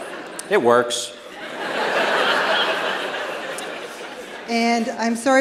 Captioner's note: laughter